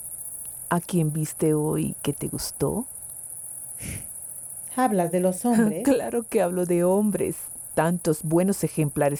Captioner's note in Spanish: resoplido